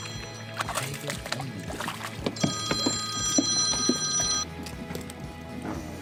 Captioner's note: telephone ringing